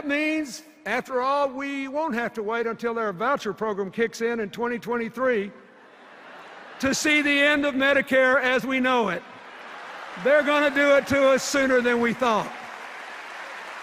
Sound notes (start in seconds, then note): 5.8 laughter; 9.4 applause